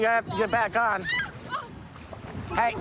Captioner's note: screaming